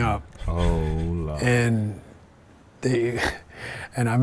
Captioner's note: laugh